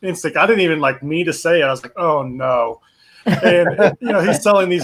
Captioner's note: chuckles